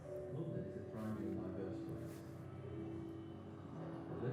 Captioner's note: light music; voice muffled